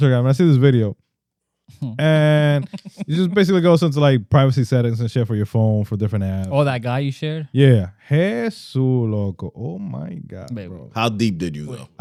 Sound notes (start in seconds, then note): 8.9 speaking Spanish